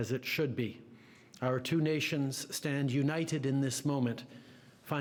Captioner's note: speaking French